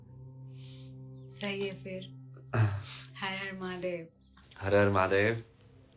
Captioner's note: गला साफ़ करने की आवाज़; नाक से की जाने वाली आवाज़